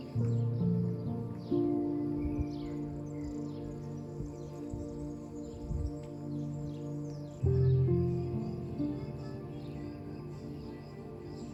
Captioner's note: birds chirping